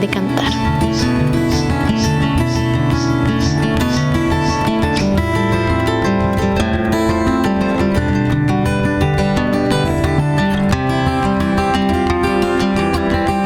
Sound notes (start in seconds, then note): 0.0 soft music; 0.2 frogs chirping